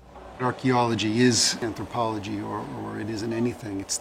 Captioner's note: mechanicl noises and voices in background